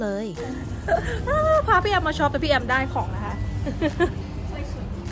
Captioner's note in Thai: หัวเราะ